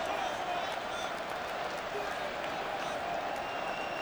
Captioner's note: crowd murmuring